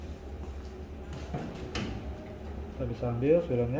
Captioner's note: oven door opening